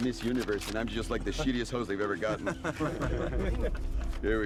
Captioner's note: laughter